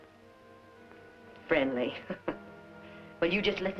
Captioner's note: chuckles